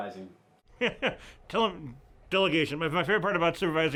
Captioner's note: laughs